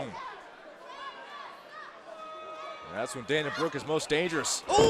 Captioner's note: crowd chatter